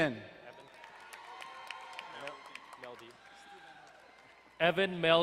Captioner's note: crowd cheering and applauding